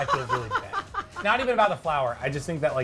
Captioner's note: laughs